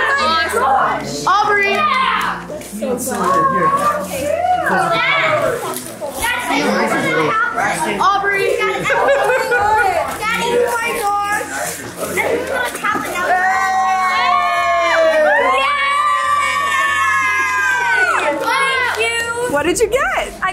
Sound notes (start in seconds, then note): 3.3 family chatters excitedly; 9.1 family chatters excitedly; 11.9 family chatters excitedly